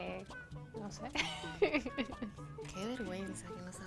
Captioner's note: laugh